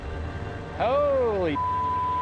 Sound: beep

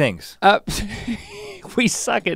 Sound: chuckles

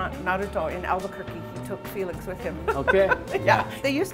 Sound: laughs

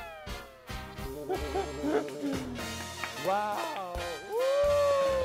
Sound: laughing so hard

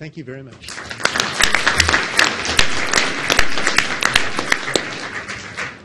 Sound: audience applauds

